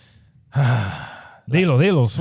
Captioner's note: speaking In Foreign Language